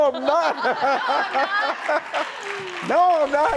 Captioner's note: laughing